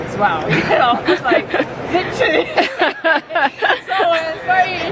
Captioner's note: laughing